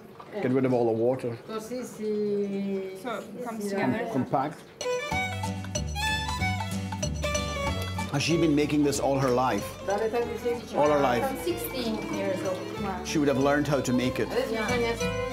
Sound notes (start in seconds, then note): 1.8 speaking Italian; 5.2 playful violin music; 10.2 speaking Italian; 14.8 playful violin music